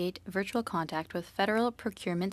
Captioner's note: speaking French